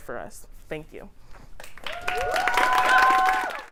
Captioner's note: applause